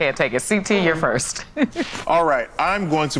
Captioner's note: laughs